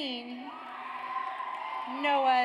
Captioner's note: audience cheers